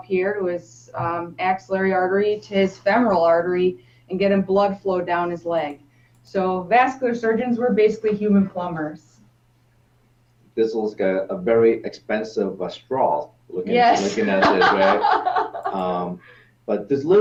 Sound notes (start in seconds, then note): 13.7 laughs